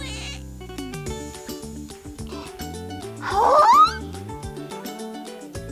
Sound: light music; gasping

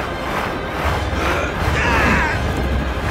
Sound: screaming

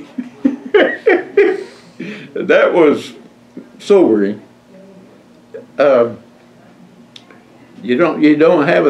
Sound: laughs

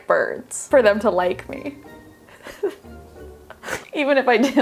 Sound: laughs

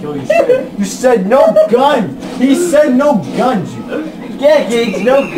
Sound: laughs

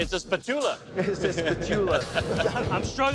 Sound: laughter; laughs

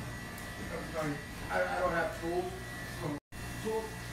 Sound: people talking in background

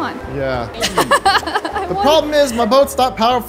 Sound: laughs

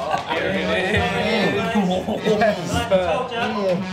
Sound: all cheering

